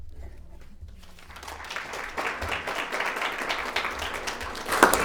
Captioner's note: audience applauding